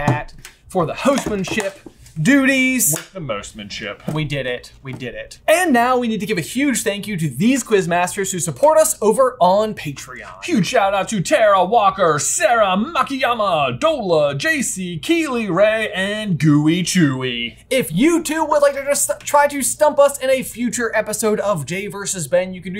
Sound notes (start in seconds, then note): none